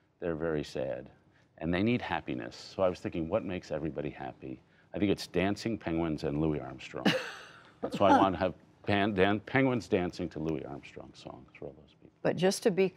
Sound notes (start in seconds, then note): 7.0 laughter